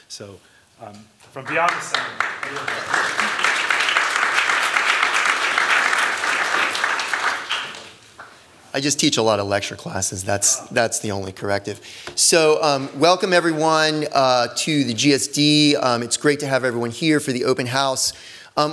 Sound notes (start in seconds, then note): 3.3 applause